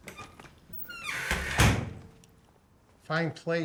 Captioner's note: door shuts